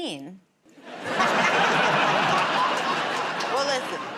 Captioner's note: laughter